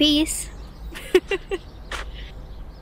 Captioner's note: Grace laughs